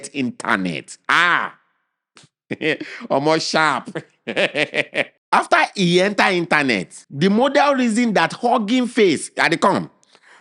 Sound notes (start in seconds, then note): 3.8 laughing; 3.9 chuckles